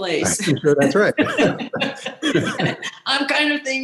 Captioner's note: laughing